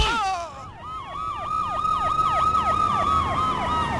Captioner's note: distant Siren Wailing